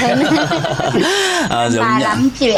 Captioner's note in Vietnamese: tiếng cười